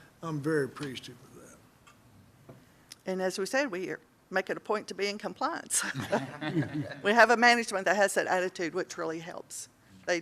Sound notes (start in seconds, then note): 5.8 laughter